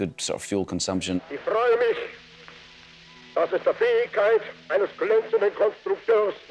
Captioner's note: Adolf speaking foreign language